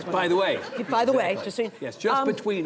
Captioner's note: audience laughing